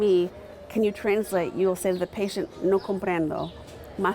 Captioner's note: speaking in foreign language